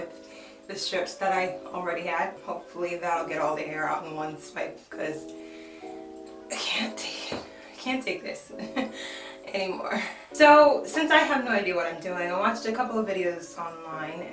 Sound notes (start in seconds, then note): 8.5 laughs